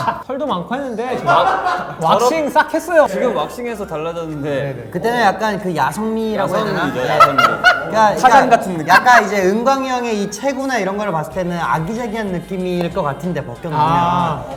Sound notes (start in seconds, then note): 6.3 laughing